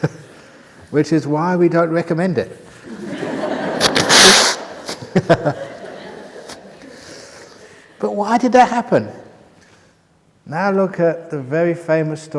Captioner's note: laughter